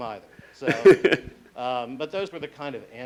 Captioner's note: laughing